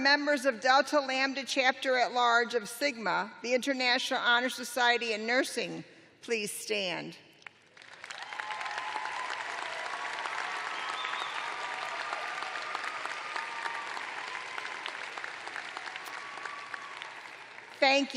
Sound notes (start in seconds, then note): 6.0 cheers and applause